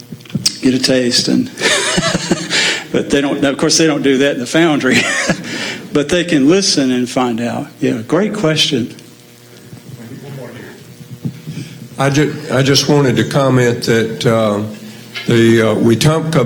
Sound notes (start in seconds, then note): 4.7 laugh